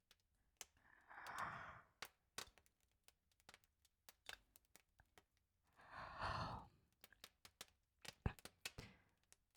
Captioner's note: Kalani yawns